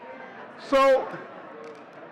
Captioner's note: audience chattering